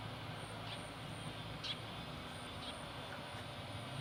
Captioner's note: birds chirping; insects chirping